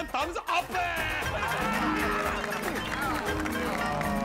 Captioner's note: applauding and cheering